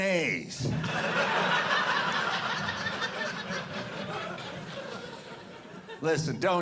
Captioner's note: audience laughing